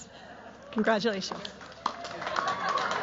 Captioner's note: cheers, applause